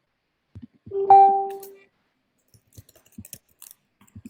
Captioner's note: computer dings